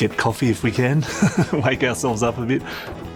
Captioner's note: laughs